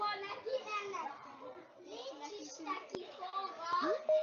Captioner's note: children's voices